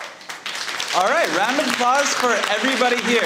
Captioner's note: audience clapping